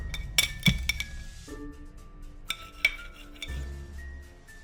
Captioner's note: dish rattles; suspenseful music continues